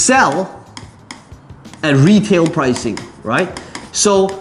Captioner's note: tapping marker